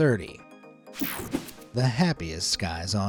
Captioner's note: graphics whooshing